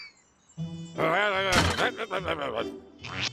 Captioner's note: angry mumbling